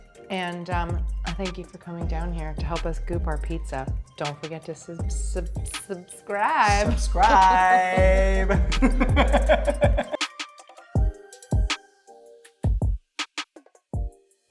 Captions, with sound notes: And thank your for coming down here to help us goop our pizza. Don't forget to subscribe. - Subscribe. (laughing) (bright music)